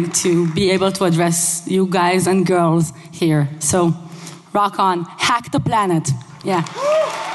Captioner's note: applause